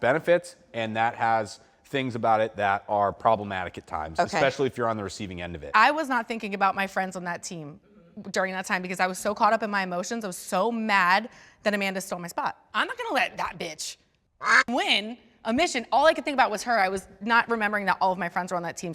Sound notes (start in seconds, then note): 14.4 quack